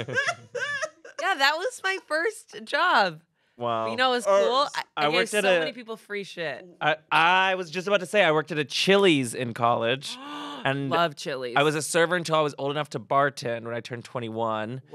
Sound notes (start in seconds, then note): 0.0 everyone laughs; 10.1 gasps